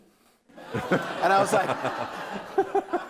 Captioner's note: audience laughing